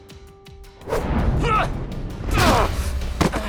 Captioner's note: Max grunts